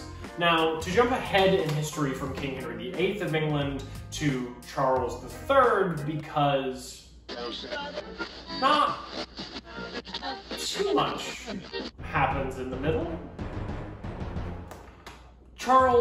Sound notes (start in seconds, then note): 7.2 radio noises